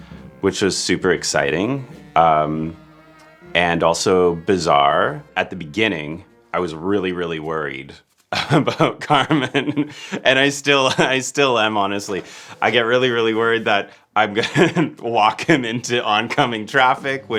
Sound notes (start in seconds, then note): 8.3 laughing; 14.3 laughing